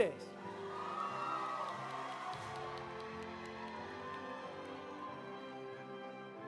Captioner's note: audience applauding; audience cheering